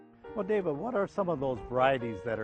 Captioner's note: voiceover